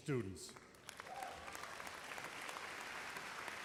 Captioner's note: applause